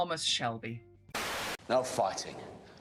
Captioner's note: static